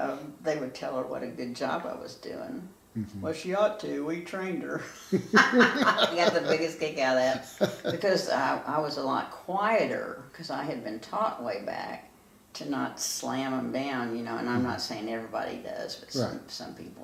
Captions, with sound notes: they would tell her what a good job I was doin'. Well she ought to, we trained her. (laughing) I got the biggest kick out of that. Because I was a lot quieter because I had been taught way back to not slam 'em down. And I'm not saying every body does but some people do.